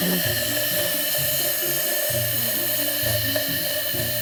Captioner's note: laughing; air whooshing